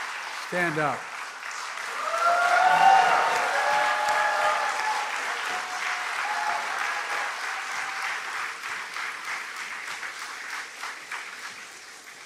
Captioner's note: cheers and applause